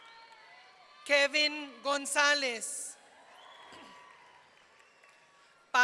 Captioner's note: audience cheering